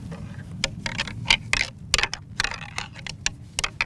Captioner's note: antlers clanking